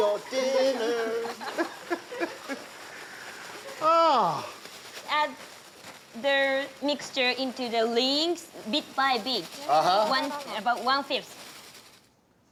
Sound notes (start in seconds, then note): 2.4 laughter; 3.7 sighs